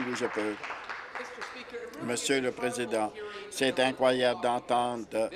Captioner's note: applause